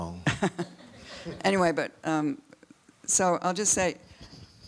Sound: audience laughs

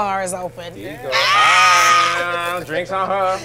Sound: screaming

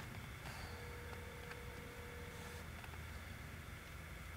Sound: phone rings

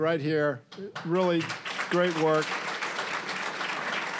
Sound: applause

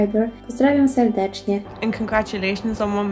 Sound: in foreign language

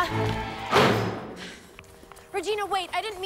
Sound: door slams

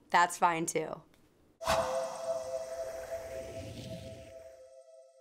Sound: swoosh

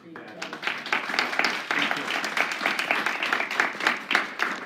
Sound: applause

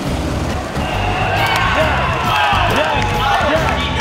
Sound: cheering

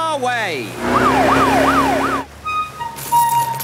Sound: siren wailing

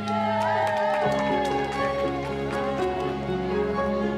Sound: cheering, applause

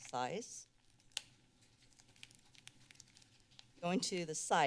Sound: rustling sounds

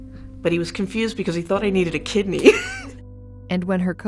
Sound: laughing

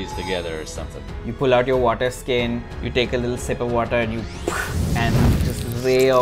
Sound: spits

